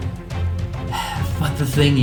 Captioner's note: sigh